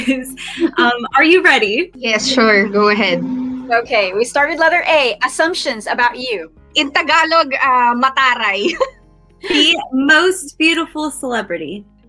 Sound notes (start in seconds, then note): 8.2 sassy